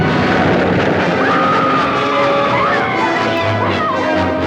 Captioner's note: women scream